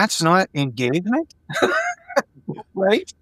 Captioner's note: laughing